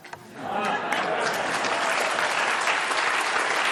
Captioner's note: applause